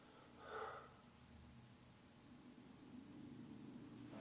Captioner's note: Jacob pants